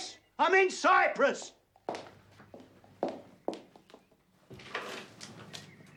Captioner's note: footsteps approaching; door opening